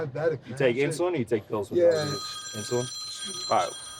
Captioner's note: phone rings